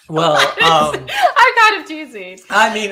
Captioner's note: laughing